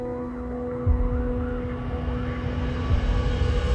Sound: siren wailing

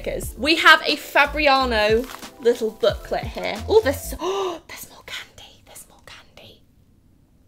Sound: gasps

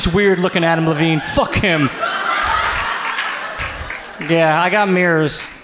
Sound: audience laughs

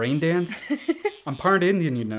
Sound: Ariana laughs

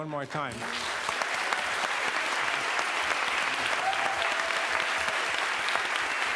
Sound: applause

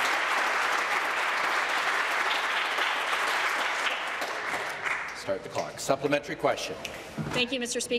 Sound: applause

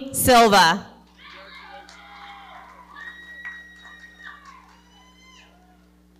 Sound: audience cheering

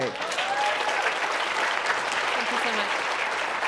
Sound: applause

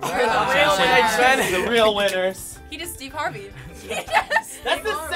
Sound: laughing

